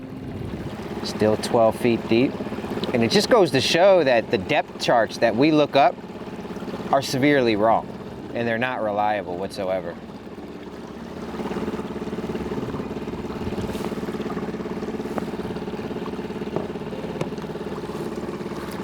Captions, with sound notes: Still 12 feet deep and it just goes to show that the depth charts that we look up, are severely wrong and they're not reliable, whatsoever. (engine purring)